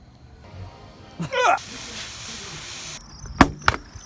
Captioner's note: gagging